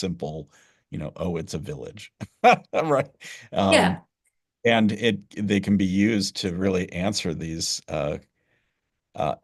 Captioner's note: laughter